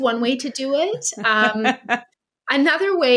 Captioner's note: laughing